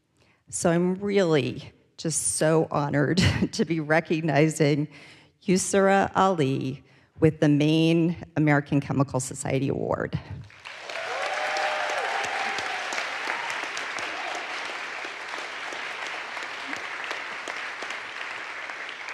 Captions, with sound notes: so I'm really just so honored to be recognizing Usira Ali with the Maine American Chemical Society Award. (audience applauds) (audience cheers)